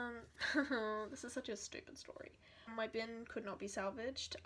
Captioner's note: more nervous chuckles